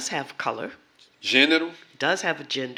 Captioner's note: speaking portuguese